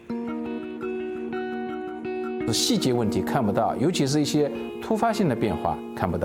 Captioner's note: speaking Chinese